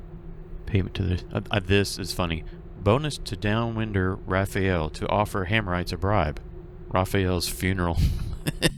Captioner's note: laughs